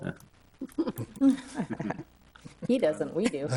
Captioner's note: all laughing